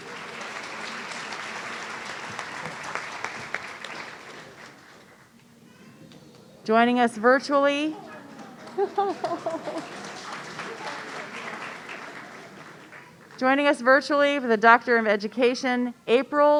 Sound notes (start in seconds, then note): 0.0 audience applauding; 7.9 audience clapping and laughing